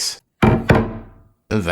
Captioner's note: clunk Clunk!